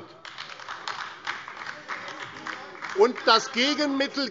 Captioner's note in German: Beifall AfD - Zurufe SPD und DIE LINKE